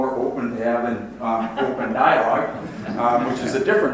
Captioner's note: audience laughs